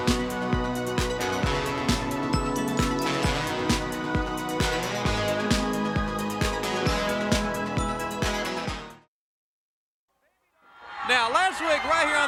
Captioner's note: crowd cheering